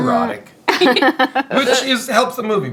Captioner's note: laughing